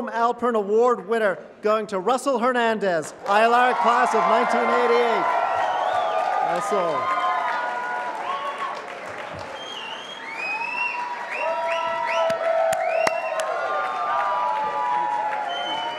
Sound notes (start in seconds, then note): 5.0 applause